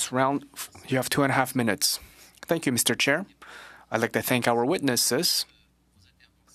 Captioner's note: speaking French